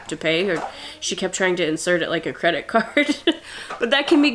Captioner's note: laughs